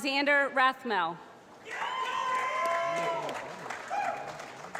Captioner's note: applause